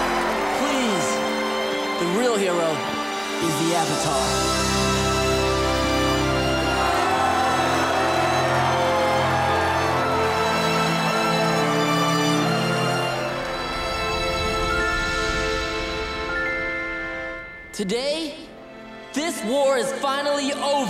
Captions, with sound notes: Please. The real hero is the Avatar. [cheering] Today, this war is finally over!